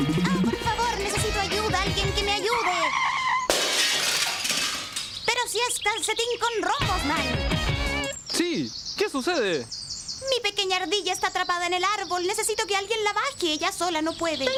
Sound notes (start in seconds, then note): 3.4 crashing sound